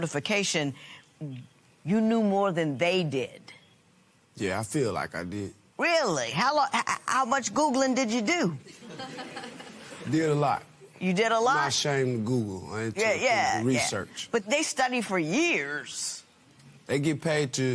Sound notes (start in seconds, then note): 8.7 laughter